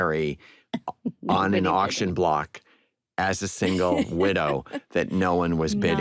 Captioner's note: laughter